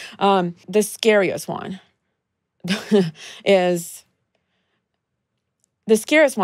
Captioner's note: chuckles